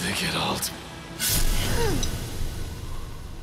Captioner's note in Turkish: Kılıç sesi